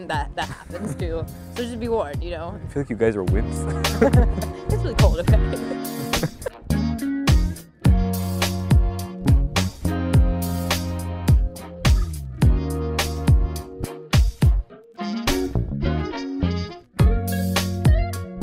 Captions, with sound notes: That happens, too, so just be warned, you know? - I feel like you guys are wimps. - (laughs) That's really cold, okay? (light funky music)